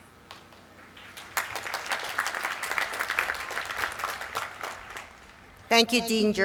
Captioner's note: applause